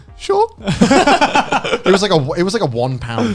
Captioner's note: laughing